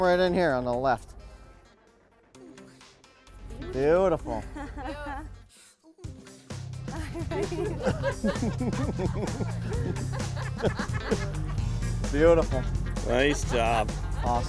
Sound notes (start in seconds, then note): 6.9 laughter